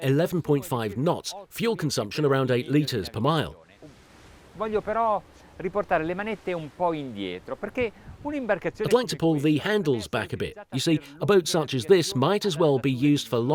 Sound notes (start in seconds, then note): 5.4 speaking in foreign language